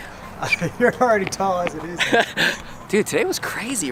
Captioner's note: laughs